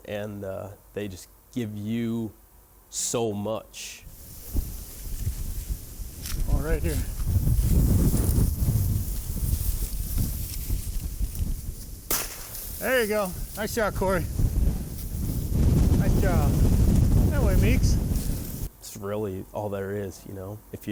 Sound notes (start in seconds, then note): 6.3 wind whooshing; 12.0 gun firing